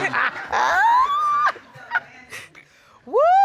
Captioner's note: laughing